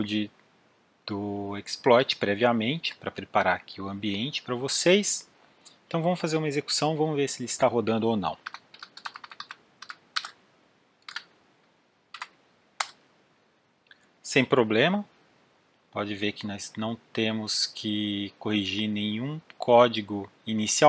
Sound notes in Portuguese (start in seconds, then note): 8.4 typing